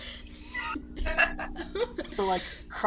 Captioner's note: laughs